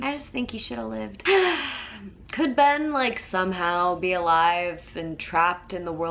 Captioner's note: sighs